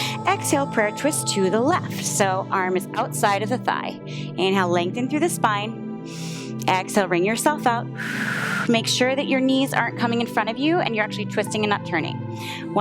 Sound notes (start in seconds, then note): 6.1 inhales; 7.9 exhales